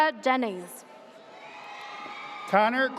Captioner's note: audience cheers